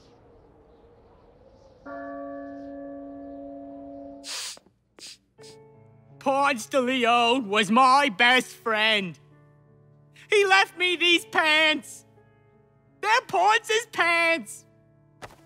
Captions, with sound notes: (bell rings) (JFK sniffling) - Ponce de Leon was my best friend. He left me these pants. They're Ponce's pants.